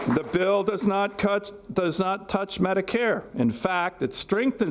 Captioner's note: applause